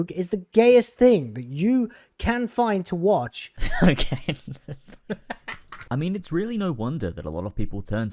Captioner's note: laughs